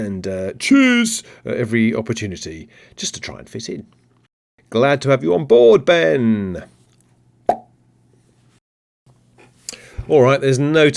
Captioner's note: pop noise